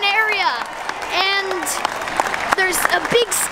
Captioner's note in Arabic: التصفيق الحشد والهتاف